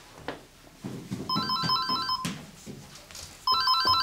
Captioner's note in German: Telefon läutet